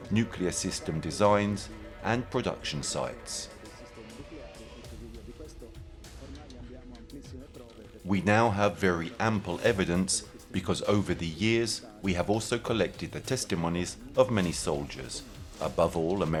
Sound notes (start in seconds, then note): 3.8 dramatic music; 3.8 speaking in foreign language